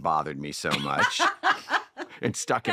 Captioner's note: all laughing